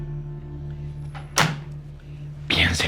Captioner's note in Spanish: Sonido al colgar